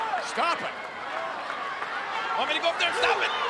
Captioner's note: crowd yelling